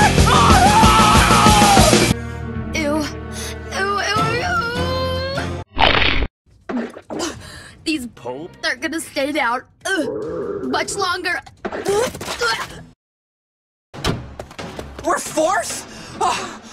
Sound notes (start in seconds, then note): 0.1 screams; 5.8 crunch; 11.6 vomits